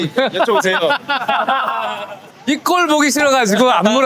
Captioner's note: laughing